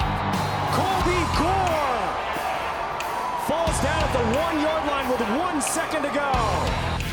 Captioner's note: cheers and applause